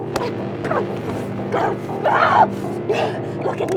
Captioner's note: both grunting